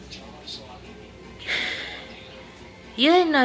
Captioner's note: sighes